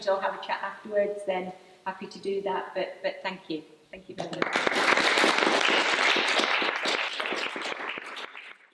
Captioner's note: applause